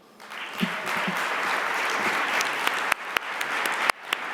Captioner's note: audience applauding